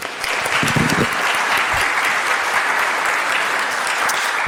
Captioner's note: crowd applauds